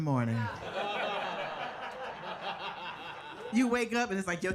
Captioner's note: audience laughing